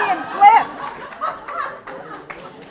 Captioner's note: laugter